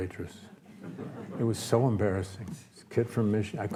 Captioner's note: audience laughs